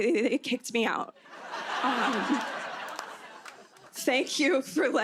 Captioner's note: laughter